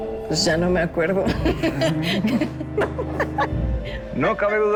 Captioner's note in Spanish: Risas